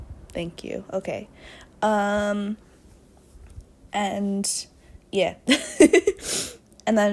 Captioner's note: laughs